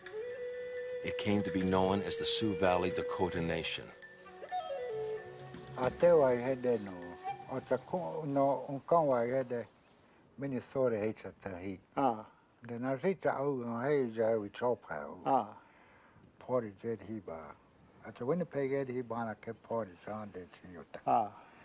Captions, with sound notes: IT CAME TO BE KNOWN AS THE SIOUX VALLEY DAKOTA NATION. (speaking Dakota)